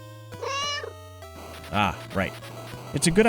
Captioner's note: meow